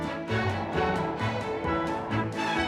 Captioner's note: wind whooshing